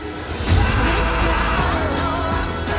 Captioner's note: крики зрителей